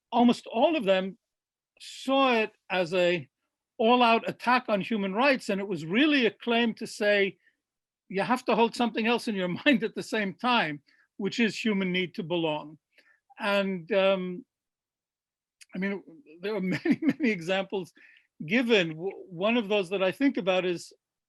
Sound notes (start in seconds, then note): 15.9 laughs